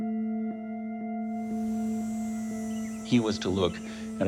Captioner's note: insects buzzing, birds chirping